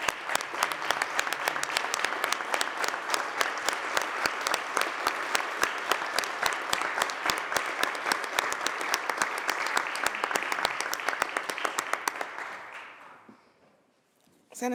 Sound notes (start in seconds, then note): 0.0 applause